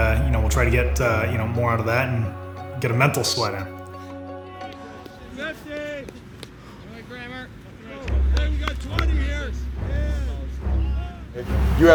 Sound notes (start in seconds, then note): 4.7 yelling in background; 8.1 dramatic music begins